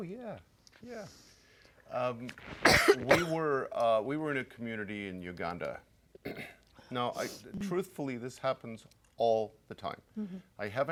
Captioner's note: coughing